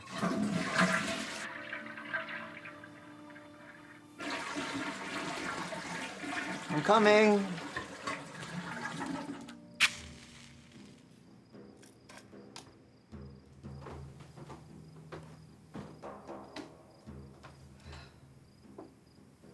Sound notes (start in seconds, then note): 0.3 toilet flushing; 9.8 match striking; 9.9 tense percussion music